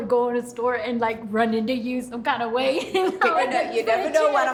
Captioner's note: laughs